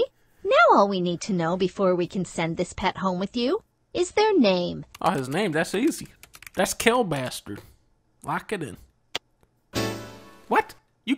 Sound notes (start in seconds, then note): 4.9 typing